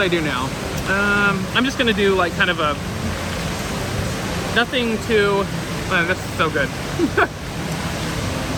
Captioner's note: laughs